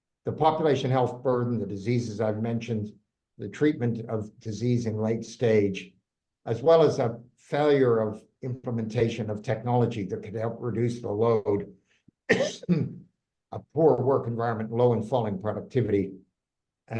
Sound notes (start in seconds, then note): 12.2 coughing